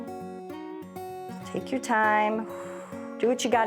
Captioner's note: exhales